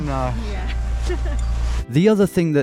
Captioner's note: laughs